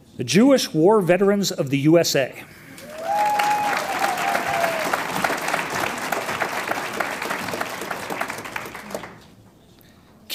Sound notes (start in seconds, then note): 2.7 audience cheers and applauds